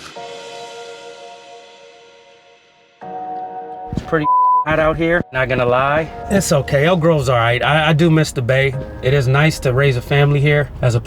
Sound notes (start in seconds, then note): 0.0 gentle music; 4.0 beep